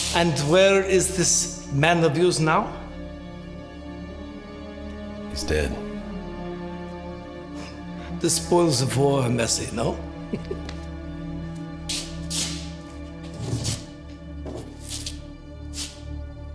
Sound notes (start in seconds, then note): 10.0 Siegmund chuckling